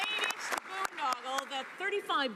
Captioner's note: some Applause